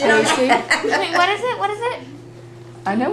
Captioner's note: laughter